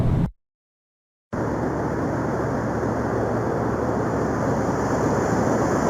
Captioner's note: muffled ocean waves crashing